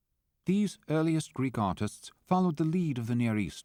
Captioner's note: voiceover